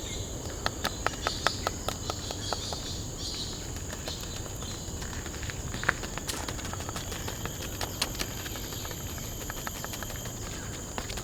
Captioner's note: soft rustling of leaves